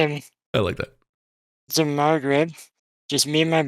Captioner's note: laughs